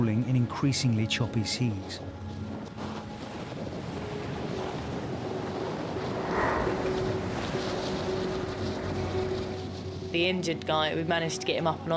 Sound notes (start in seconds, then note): 3.3 water sloshes; 6.5 suspenseful music continues